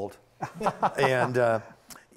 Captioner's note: laughing